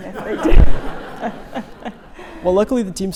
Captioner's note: all laughing